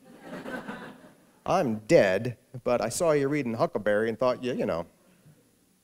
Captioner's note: laughter